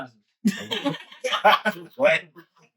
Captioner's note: laughing